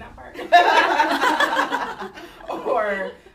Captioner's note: laughter